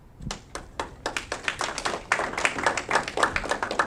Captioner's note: audience clapping